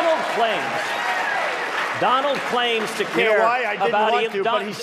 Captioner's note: applause